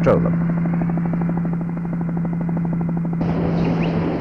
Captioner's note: sound of helicopter